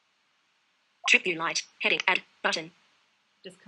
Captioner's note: VoiceOver announcing content